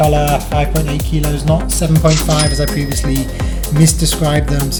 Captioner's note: dings